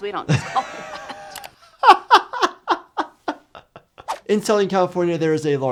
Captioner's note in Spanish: riendo